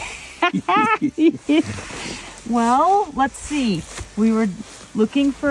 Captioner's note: laughs